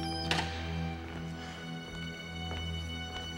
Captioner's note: none